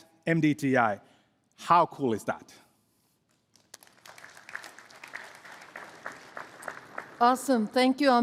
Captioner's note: applause